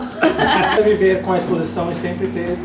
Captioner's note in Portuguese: Risadas